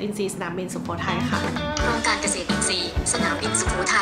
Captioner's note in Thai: เสียงโทรศัพท์